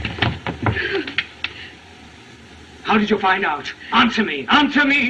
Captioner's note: gasps